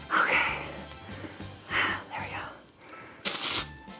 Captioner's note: breathes deeply